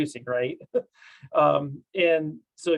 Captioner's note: chuckles